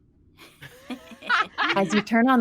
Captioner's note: laughing